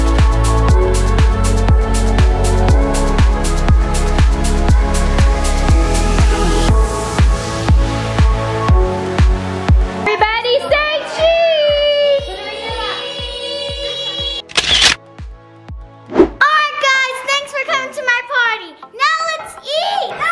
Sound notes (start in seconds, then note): 14.5 camera clicking